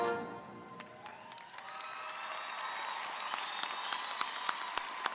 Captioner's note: audience applauding